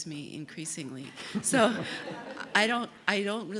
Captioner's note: laugh